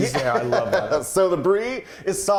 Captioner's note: laughs